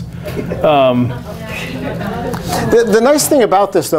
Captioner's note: laughter